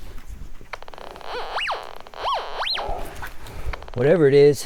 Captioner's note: metal detector squeals